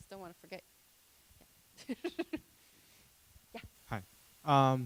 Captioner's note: laughing